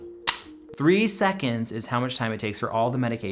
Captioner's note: pen snapping